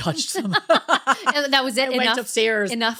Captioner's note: laughing